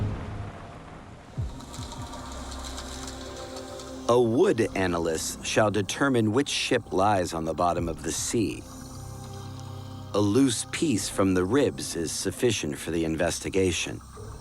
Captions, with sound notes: [underwater echoes and faint music] A wood analyst shall determine which ship lies on the bottom of the sea. A loose piece from the ribs is sufficient for the investigation.